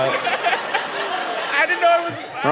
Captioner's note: audience laughing